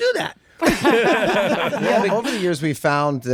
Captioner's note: group laughing